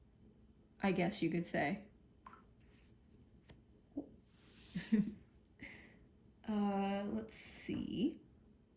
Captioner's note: chuckles